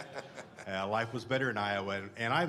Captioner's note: laughter